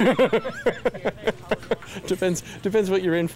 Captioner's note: laughs